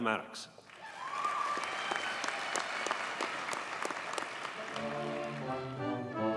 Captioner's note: audience cheers and applauds